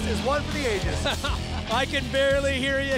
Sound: laughter

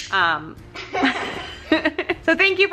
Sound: laughing

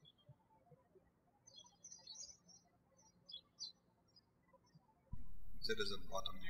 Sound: birds chirping

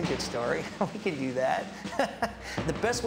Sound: laughs

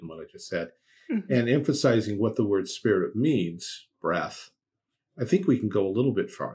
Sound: breath

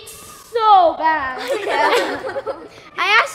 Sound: children laughing

